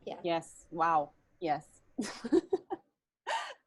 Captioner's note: laughter